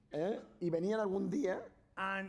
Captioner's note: speaking spanish